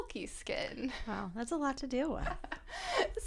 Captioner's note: laughter